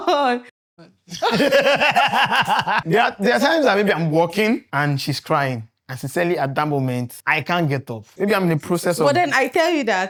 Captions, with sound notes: (laughing) There are times that maybe I'm working and she's crying. and sincerely at that moment, I can't get up. Maybe I'm in the process of-- But then I tell you that,